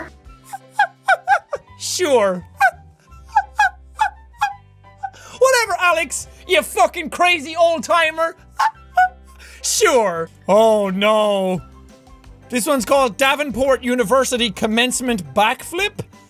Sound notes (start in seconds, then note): 0.4 imitates laugh; 2.4 imitates laugh again; 8.6 imitates laugh again